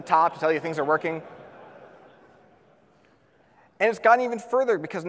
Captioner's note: audience laughs